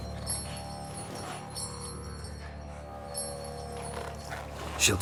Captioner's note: bell jangling